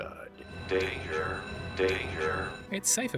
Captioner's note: alarm bells